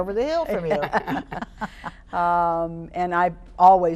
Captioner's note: laughing